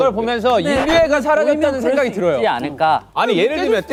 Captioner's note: decibels rising with differing opinions